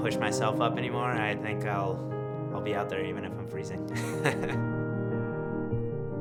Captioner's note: laughs